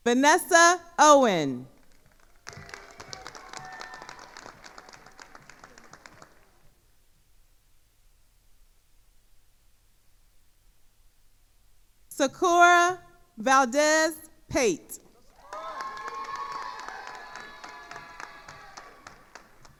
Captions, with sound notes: Vinessa Owen. (attendees applauding) Sakura Valdez Pate. (attendees cheering and applauding)